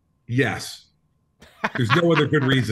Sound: laughs

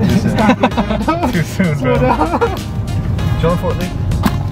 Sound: both laugh

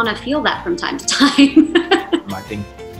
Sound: chuckles

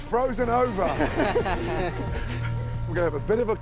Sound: laughter

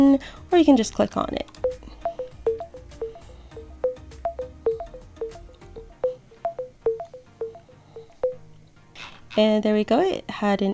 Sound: Be My Eyes Sounds

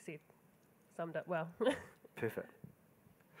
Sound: giggling

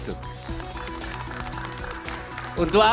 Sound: hands clapping

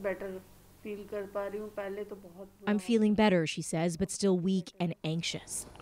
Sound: speaking Foreign Language

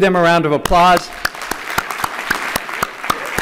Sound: applause

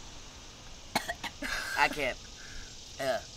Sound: coughing

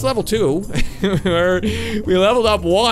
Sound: laughing

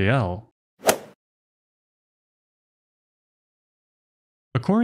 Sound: golf ball hit sound effect

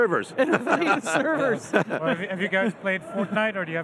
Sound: laughing

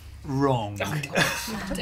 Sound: laughter

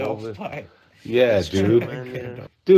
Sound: laughing

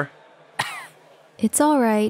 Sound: coughs

